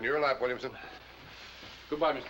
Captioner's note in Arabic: تعليق صوتي